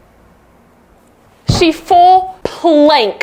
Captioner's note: foot thuds